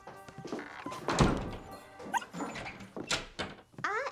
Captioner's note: dog whimpers